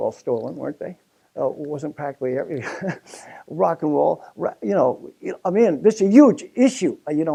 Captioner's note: laugh